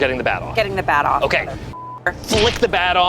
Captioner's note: beep